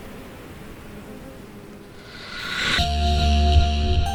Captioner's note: the swarm and undulating noise fade